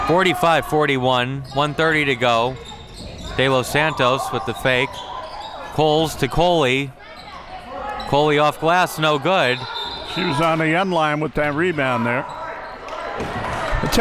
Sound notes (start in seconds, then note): 9.5 whistle blows